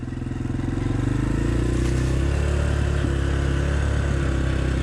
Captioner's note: bike engines roaring